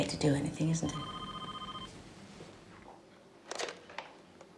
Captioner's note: phone ringing